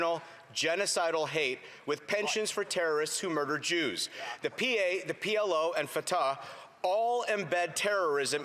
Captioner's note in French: voix de l'interprète